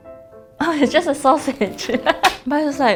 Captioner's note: laughs